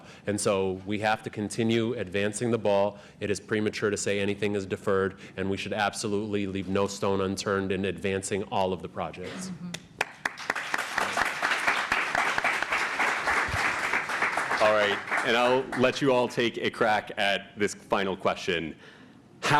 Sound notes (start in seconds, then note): 9.9 applause